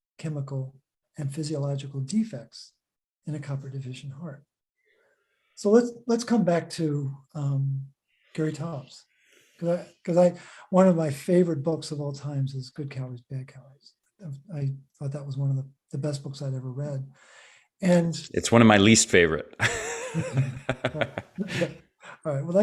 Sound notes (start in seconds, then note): 19.6 laughs